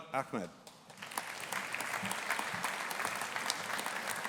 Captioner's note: audience applauding